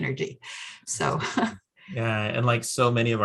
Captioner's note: laughs